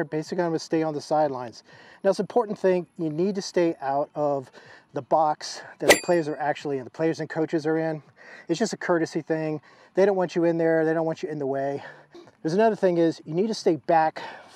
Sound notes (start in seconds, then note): none